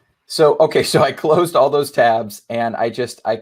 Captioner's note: laughing amusingly